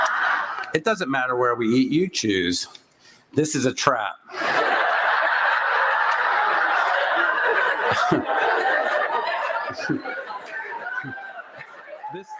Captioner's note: laughter and cheering